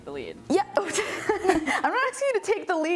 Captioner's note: laughing